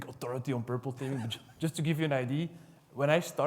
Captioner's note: laughs